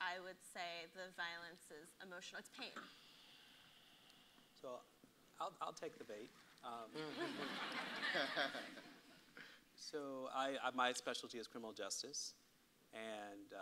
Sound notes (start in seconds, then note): 7.0 audience laughs